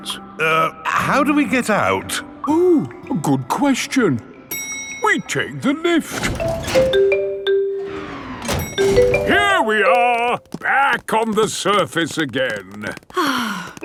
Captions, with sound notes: Any questions? Er... how do we get out? Oh, good question! -(ELEVATOR DINGS) -We take the lift! Here we are! Back on the surface again!